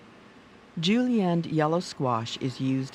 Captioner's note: voiceover